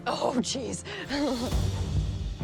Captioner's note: laughs